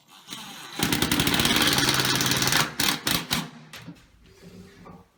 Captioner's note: drilling